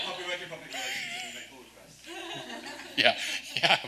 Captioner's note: speaks faintly